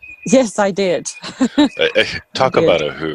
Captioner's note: laughs